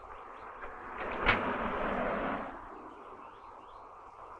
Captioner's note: door clicking